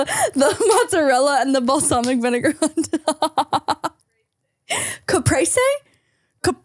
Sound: laughing

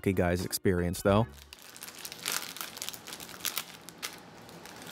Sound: plastic rubbing

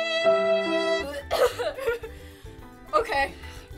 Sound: morose music; gagging

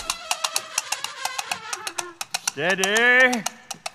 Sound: horse whinnying; horses trotting

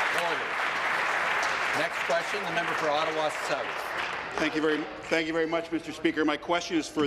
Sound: some Applause

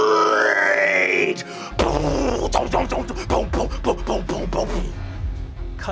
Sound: imitate bassline dropping

